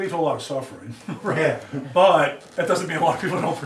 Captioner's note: laughs